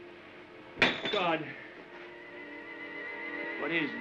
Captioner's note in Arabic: انكسار أنبوب زجاجي